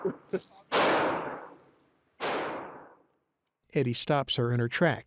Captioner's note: laughs; gunshots booming